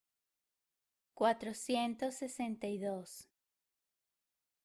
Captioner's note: in Spanish